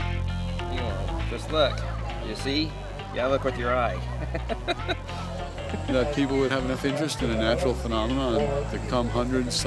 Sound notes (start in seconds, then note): 0.0 funky, upbeat music; 3.9 laughs